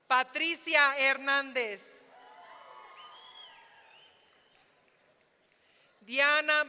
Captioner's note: audience cheering